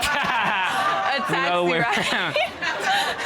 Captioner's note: laughs